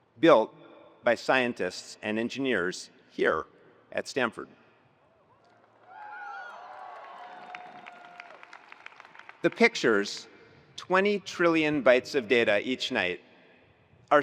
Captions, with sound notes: built by scientists and engineers here at Stanford. (attendees applauding) (attendees cheering) The pictures 20 trillion bytes of data each night,